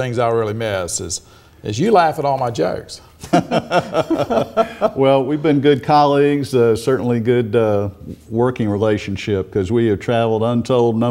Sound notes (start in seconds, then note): 3.2 laughing